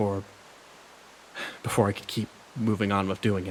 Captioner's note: sigh